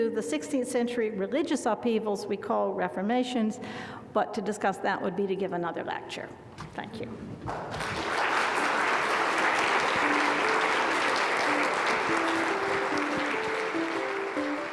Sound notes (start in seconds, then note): 7.4 applause; 10.1 soft music